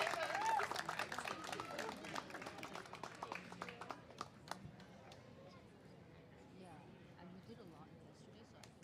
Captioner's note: cheers and applause